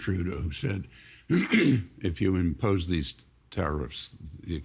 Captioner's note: clearing throat